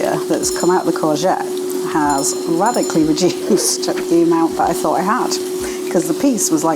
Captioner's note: laugh